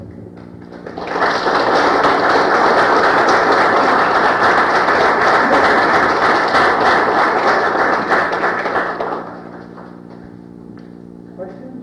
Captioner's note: applause, audience questions and discussion, closing